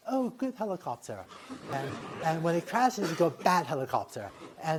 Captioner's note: laughter